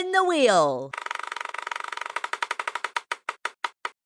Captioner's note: wheel spins